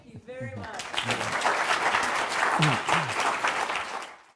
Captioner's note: applause